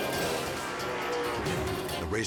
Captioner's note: engines rumbling